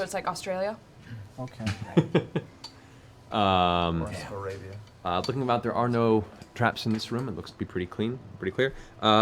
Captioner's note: laughs